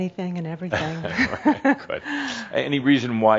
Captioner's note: they chuckle